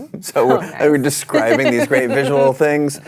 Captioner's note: laughter